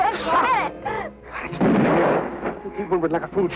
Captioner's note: gunshot